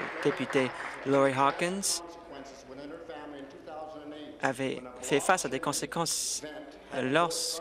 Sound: applause

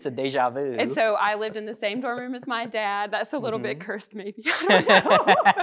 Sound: both laughing

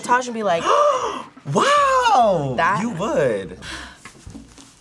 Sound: gasps

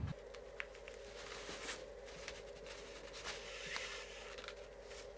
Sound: fabric and thread crumpling

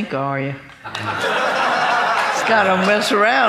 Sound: laughing

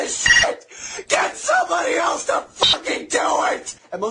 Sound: beep

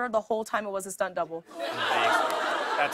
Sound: laughter

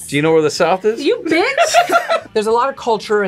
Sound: both laugh

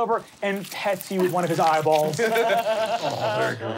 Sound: squishing

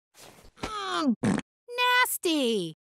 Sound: groaning; farting

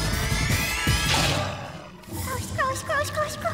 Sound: bug chomps

